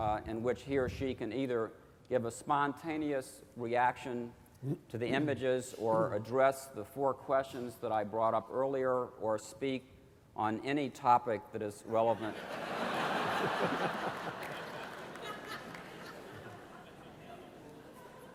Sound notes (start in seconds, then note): 12.2 laughter